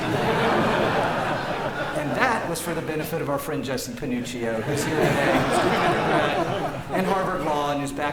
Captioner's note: laughter